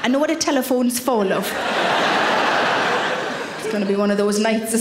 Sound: audience laughing

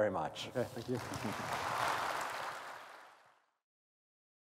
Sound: applause

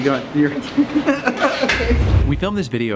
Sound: laughing

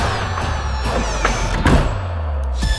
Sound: door creaks shut

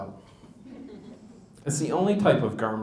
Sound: laughter

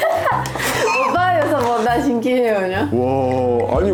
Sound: laughing

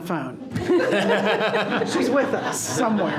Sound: people laughing

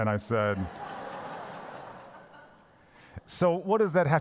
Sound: congregation laughs

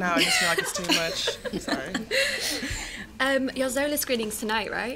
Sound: laughter

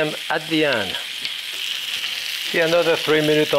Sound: pan sizzling

